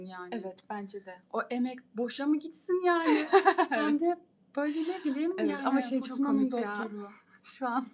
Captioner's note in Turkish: kahkaha